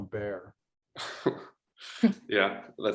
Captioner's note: laughter